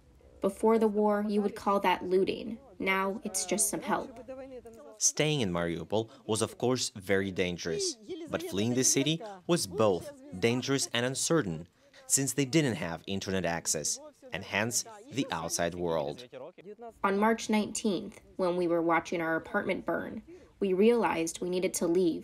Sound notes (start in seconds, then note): 16.9 through translator